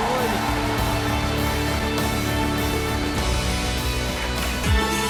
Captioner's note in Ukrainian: оплески